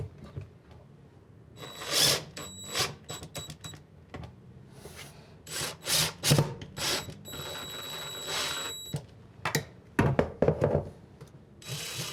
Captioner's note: drill